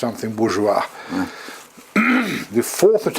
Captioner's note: cough